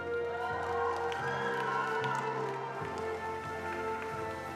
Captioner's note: attendees applauding